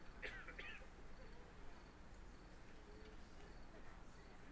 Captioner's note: attendee coughs